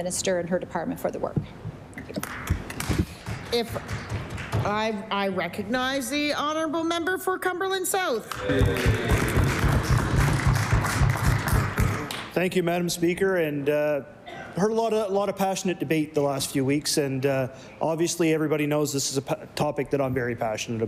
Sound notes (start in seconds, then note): 5.4 applause; 12.2 cheering/Applause